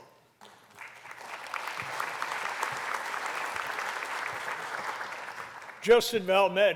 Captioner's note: applause